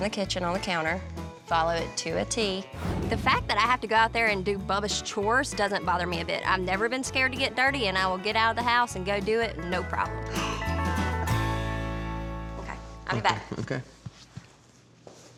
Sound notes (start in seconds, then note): 10.3 gasps